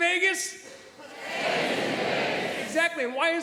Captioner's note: audience responds... Stays in Vegas